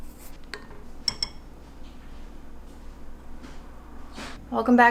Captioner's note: coconut scraping; spoon clinking